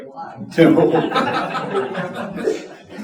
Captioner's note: audience laughing